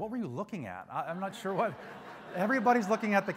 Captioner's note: crowd laughs